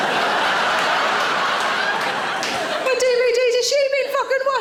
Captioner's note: audience laughing